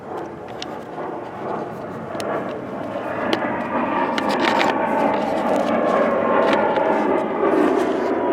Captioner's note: sound of Airplane ahead